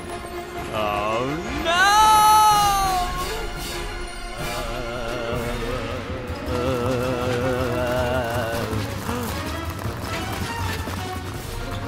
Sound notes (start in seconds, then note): 8.9 gasps